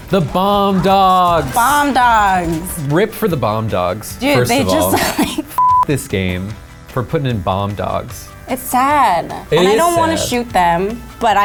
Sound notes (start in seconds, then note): 5.6 beep